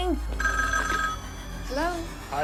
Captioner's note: phone rings